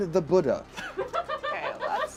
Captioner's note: crew member laughs